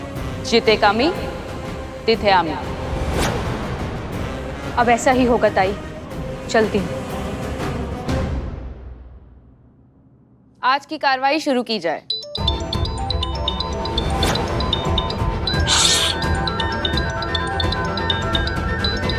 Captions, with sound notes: As you sow, so shall you reap. That is how it's going to be. I'll take your leave. Let today's activities begin. [Phone ringing] [Phone ringing] Shhhh!